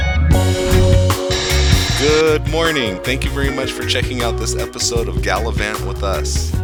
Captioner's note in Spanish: Radio estática